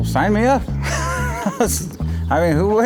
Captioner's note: laughs